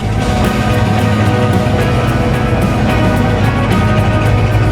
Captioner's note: applause